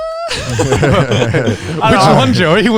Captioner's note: group chuckles